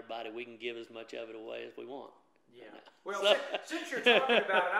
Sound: laughs

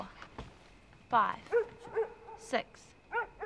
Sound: dog barking

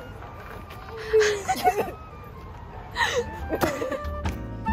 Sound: laughing

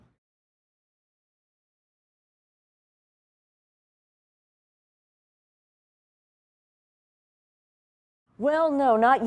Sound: silence

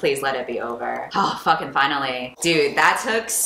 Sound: sighs

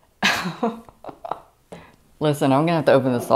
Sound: nervous laughter

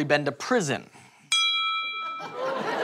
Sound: ding

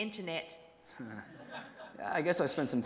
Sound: crowd laughs

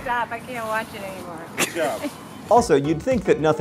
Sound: giggle

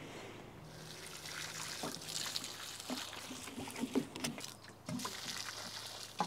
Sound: water gently splashing

